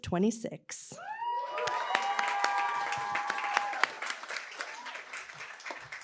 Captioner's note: applause, cheering